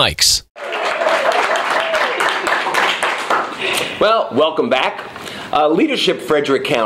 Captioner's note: cheering and clapping